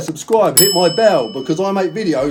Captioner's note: bell dinging